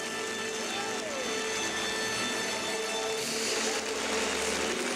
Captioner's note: crowd applauding